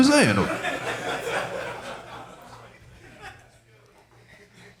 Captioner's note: audience laughing